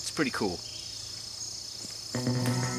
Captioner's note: birds singing; mysterious music